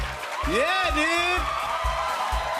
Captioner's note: cheers and applause